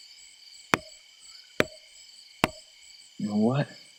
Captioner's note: wood tapping